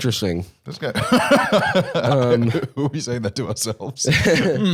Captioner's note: laughs